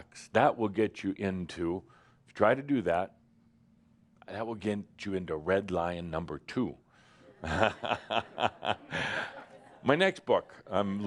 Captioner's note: chuckles